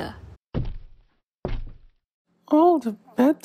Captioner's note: footsteps